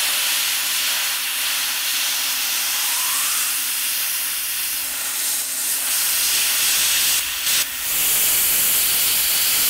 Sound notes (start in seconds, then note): 0.5 welder hissing